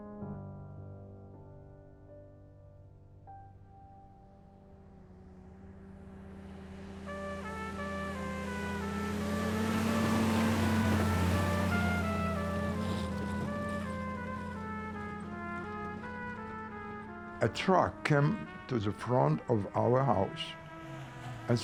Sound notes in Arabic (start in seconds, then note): 0.2 موسيقى البيانو الحزينة; 5.9 موسيقى درامية; 5.9 هدير المحرك